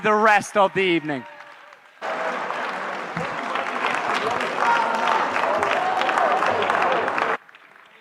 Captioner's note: applause